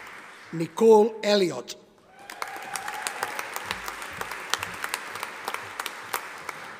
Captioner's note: audience applauding